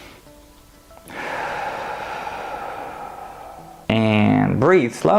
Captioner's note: breathe in; breathe out